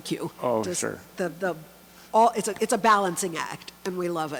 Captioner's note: voiceover